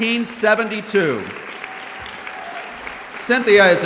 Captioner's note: audience clapping